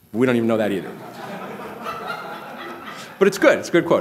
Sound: laughter

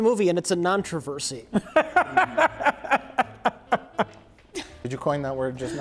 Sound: laughing

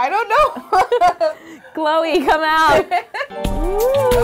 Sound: laughing; laughing

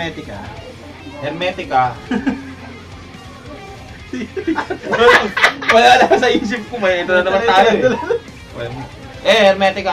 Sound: riendo

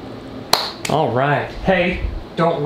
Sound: claps

